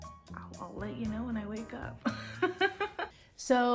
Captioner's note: laughs